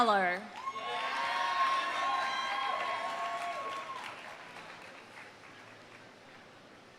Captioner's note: audience cheering; audience applauding